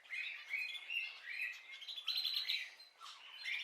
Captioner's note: birds singing